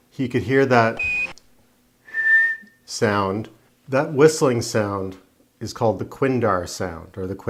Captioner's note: Quindar tone